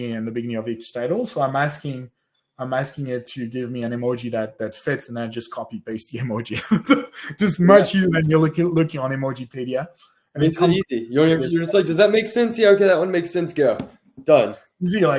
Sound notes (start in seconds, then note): 6.4 laughs